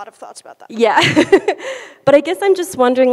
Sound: laughs

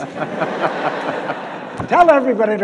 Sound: audience laughs

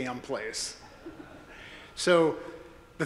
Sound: audience laughing

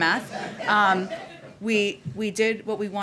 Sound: laughter

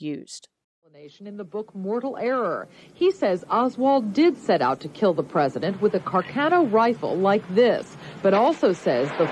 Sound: bang

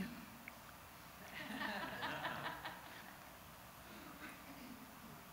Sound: audience chuckles

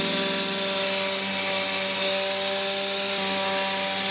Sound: electric sander

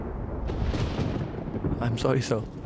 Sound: thunderclap

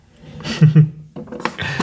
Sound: chuckles

